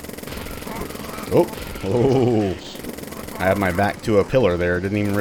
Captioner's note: chuckles